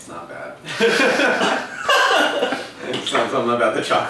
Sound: laughter

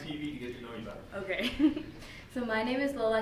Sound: giggles

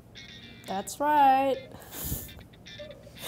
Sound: chuckles

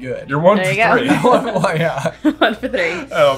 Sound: both laughing

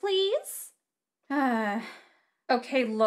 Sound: sighs

